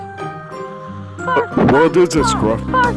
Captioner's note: Scruff barks at Ding Dong and Timothy